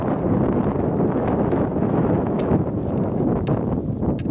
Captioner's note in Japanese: カメラストラップにぶつかる音